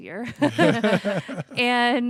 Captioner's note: laughter